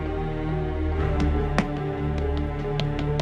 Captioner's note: footsteps